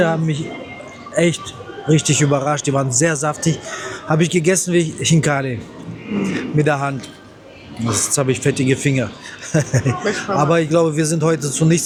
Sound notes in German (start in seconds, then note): 6.1 räuspern; 9.3 gelächter